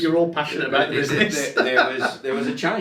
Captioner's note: laughs